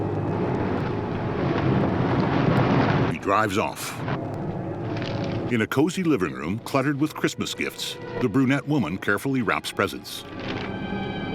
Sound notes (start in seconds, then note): 1.1 gravel crunching; 4.8 paper crinkling